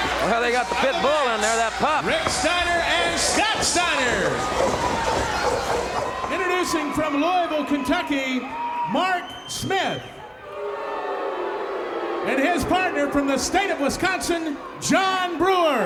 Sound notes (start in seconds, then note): 9.8 audience jeers